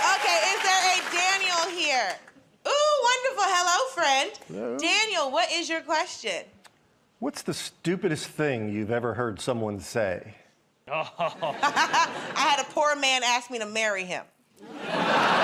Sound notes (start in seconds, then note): 10.9 chuckles; 14.6 laughter